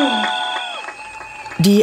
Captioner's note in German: Jubel